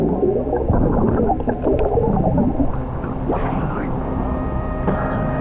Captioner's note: underwater sounds continue